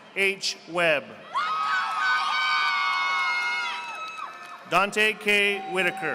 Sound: audience applauding

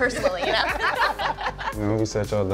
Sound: everyone laughs

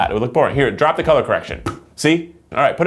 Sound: pops lips

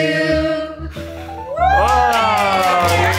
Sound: blowing; attendees applaud

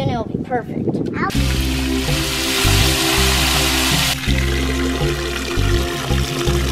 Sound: gentle upbeat music; water fizzes

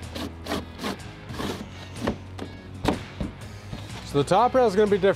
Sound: plank scuffing

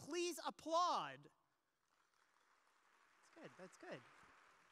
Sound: audience applause

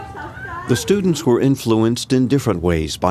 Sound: people laughing

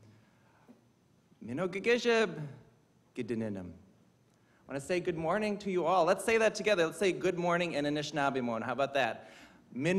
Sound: speaking indigenous language

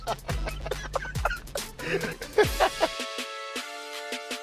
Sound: laughter

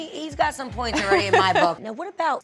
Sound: laughing

